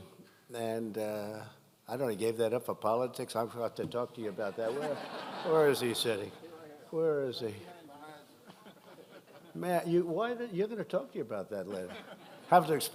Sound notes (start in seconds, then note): 4.4 laughter